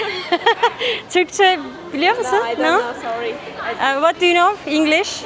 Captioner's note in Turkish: kahkaha